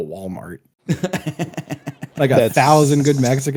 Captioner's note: laughs